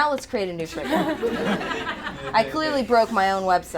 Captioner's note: attendees laugh